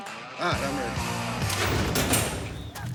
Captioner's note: gate opening